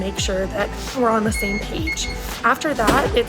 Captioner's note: ID reader beeps